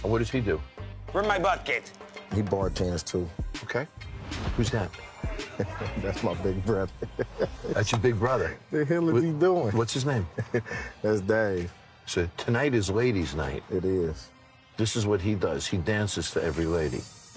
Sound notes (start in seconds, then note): 5.3 laughing